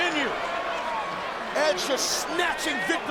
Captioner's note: audience chattering